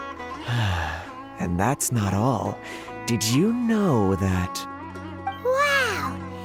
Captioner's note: sigh